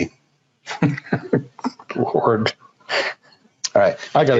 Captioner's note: chuckles